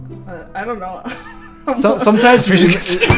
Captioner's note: laughs